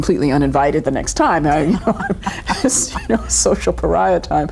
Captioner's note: chuckling